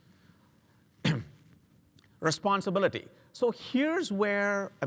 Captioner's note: cough